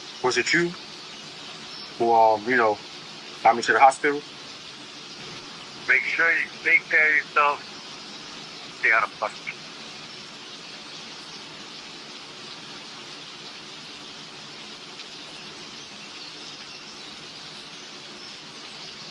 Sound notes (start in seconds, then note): 7.8 raining; 10.0 birds chirping; 10.0 raining